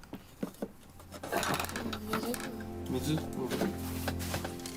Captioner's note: man speaking native language